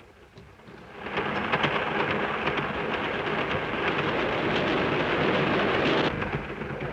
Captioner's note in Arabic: قطار يهدر ويهتز